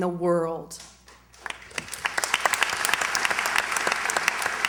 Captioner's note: applause